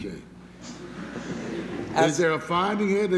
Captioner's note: laughter